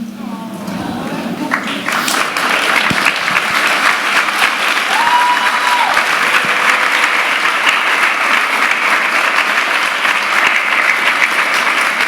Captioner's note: applause